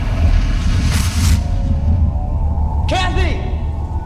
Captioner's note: thunder crashing